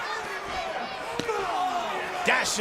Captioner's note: foot slaps